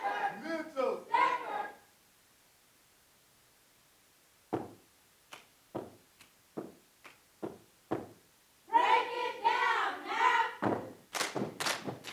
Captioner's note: away from Microphone